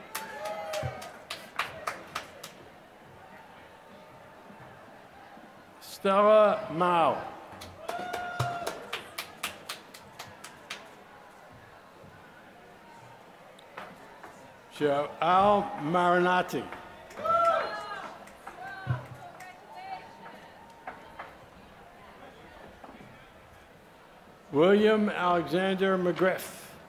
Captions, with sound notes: [APPLAUSE] Stella Mao, [APPLAUSE] Joel Maren Arctic [APPLAUSE]. Congratulations. William Alexander McGriff.